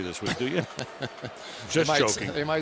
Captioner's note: chuckles